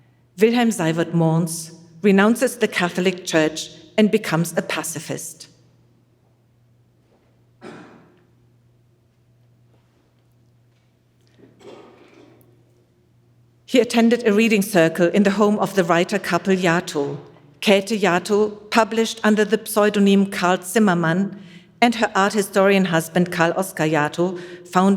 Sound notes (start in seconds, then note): 7.1 chair clacking